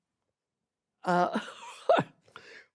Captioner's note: chuckles